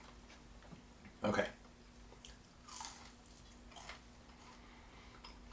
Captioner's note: food crackles